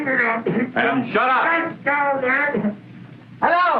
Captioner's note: mumbling; mumbling